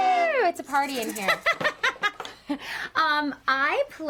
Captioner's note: laughs